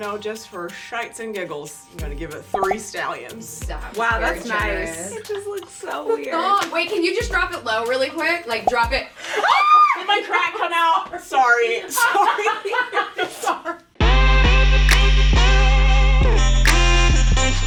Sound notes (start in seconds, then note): 9.4 screaming; 11.9 laughing; 14.0 western hip hop music